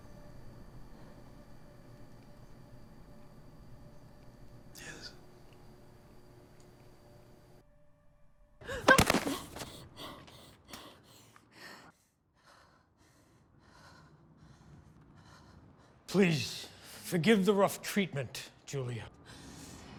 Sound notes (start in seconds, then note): 8.7 yelps; 8.8 thud